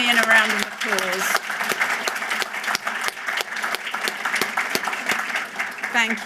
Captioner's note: applause